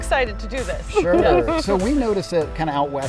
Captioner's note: laughing